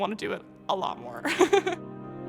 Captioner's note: laughs